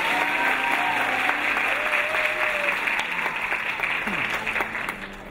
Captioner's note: audience applauding